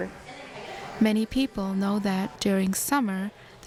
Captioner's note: voiceover